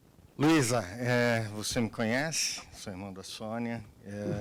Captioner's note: man speaking Portuguese